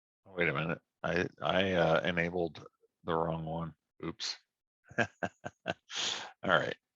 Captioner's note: laughs